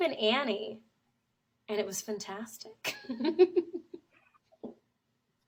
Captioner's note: laughs